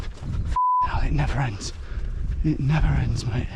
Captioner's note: beep